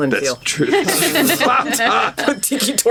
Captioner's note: laughing